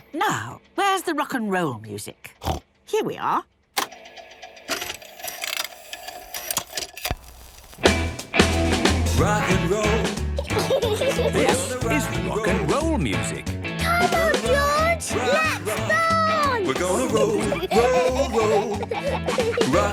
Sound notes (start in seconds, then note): 3.7 clicks, whirring